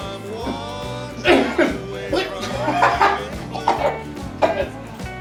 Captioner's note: Jake coughing